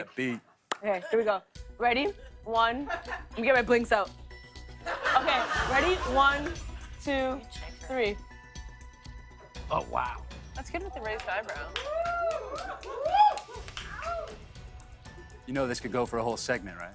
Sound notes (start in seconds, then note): 4.8 laughter; 11.6 cheers